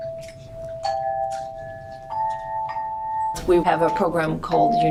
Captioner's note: hand bells